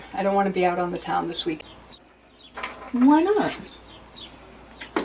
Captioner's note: none